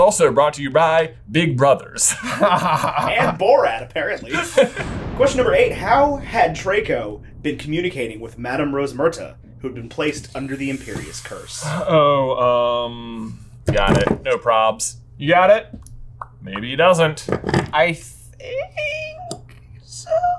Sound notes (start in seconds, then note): 2.1 laughing